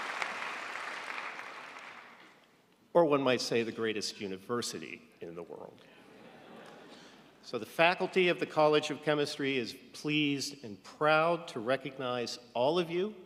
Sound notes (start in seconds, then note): 6.0 audience laughing